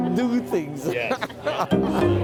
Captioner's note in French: rires